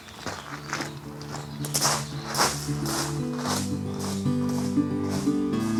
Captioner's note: footsteps; gentle acoustic guitar